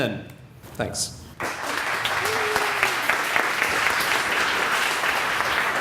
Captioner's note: applause